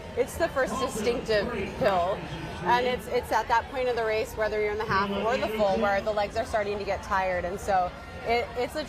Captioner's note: none